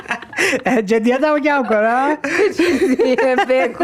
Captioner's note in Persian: خنده